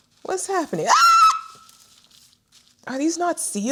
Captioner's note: squeals